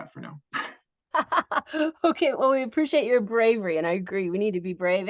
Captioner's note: laughs